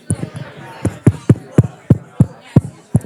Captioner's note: tapping noises